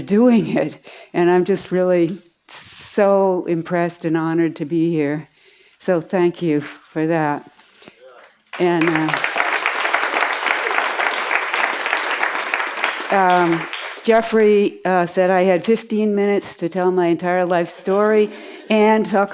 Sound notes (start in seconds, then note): 8.2 applause